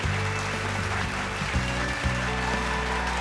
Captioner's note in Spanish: Aplausos